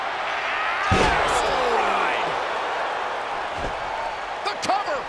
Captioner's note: crowd cheers; body crashes